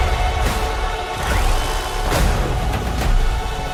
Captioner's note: gun whirring